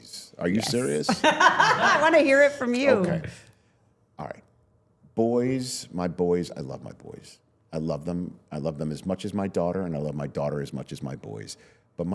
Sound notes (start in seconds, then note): 0.6 laughs